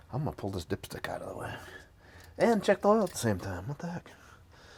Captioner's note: none